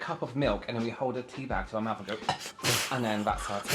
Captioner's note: cough